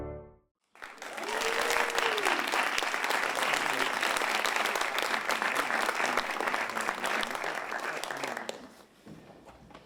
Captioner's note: applause and cheering